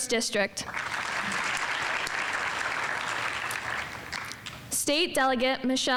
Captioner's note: audience applauding